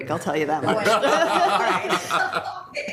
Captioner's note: group laughs